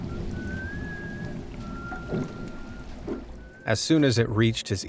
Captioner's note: eerie whistling